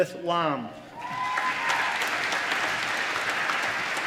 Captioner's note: applause